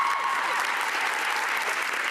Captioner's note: cheering and Applause